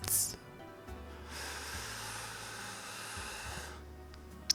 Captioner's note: inhale